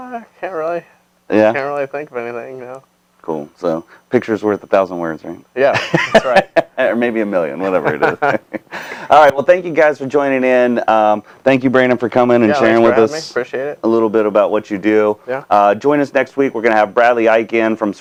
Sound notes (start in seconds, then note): 6.0 laughing